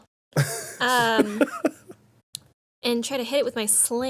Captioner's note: laughing